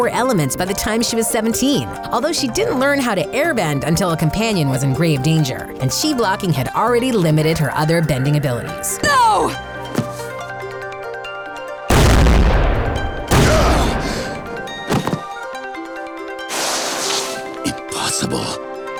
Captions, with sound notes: by the time she was 17, although she didn't learn how to airbend until a companion was in grave danger and chi blocking had already limited her other bending abilities. No! [groaning] Impossible.